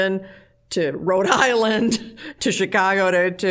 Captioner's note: laughing